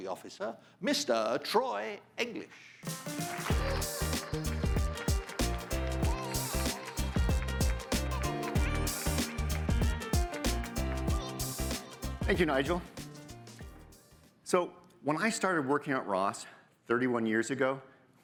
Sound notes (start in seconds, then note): 3.1 audience applauding; 3.1 upbeat music